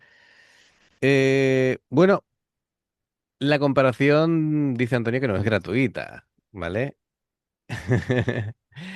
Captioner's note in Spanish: risas